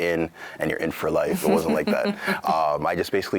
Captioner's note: laughs